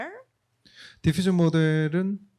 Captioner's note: speaking korean